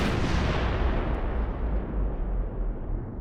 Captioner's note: loud explosion